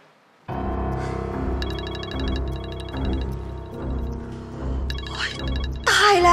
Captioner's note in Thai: เสียงโทรศัพท์